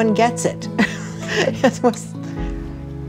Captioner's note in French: rires